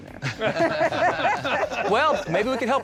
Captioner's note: laughter